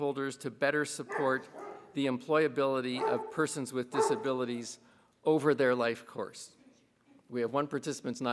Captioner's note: dog barking